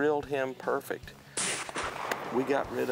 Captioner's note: firing rifle